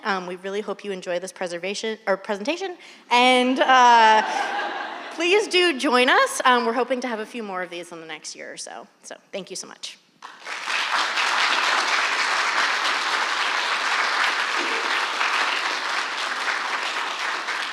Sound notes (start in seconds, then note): 4.1 audience laughing; 10.2 audience applauding